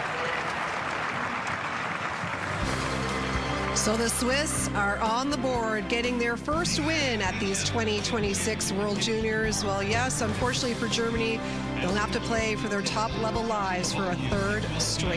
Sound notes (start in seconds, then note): 0.0 applause